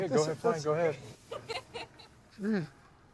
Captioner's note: laughing